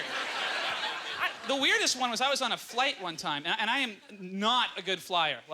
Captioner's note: audience laughter